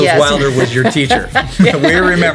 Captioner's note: laughter